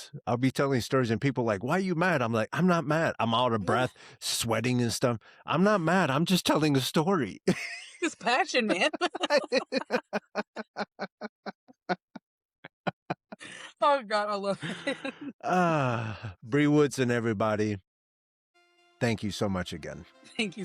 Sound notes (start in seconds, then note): 9.3 laughing; 18.5 dramatic Music